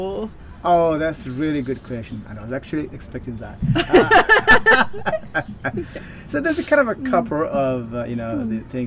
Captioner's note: laughing